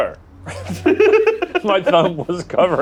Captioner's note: group laughs